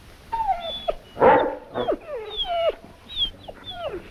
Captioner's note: dogs barking